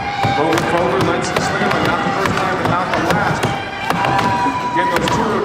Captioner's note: muffled announcer calls event